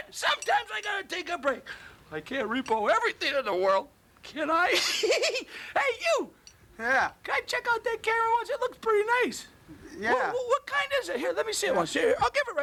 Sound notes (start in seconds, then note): 4.7 giggles